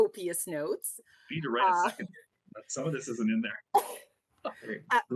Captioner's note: rires